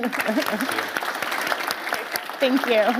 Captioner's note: applause